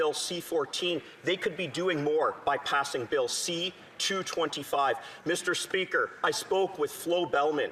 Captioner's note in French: voix de l'interprète